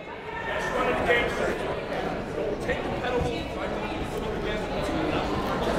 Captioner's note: people talking in the crowd